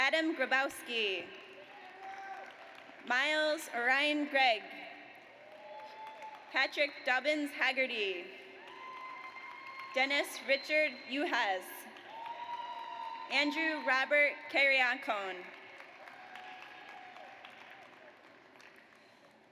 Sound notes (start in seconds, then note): 1.9 audience cheers; 5.2 audience applauds; 8.6 audience cheers; 11.9 audience applauds; 16.0 audience cheers